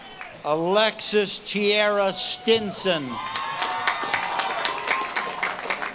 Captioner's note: audience claps and cheers